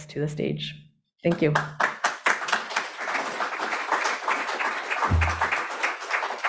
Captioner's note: audience applauding